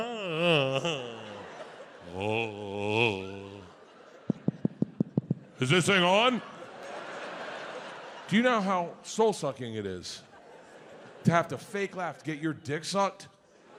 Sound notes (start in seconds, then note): 4.3 Bert taps mic